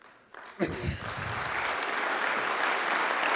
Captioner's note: applause